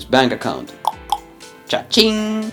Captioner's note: clicks tongue